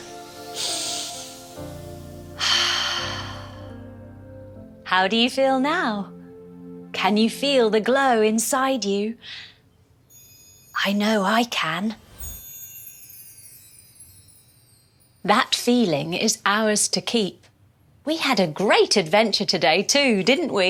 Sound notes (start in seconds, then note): 0.3 inhale; 2.3 exhale; 11.9 light magical chime